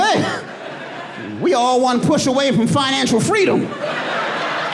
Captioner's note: audience laughing